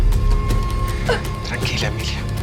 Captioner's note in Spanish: Sollozos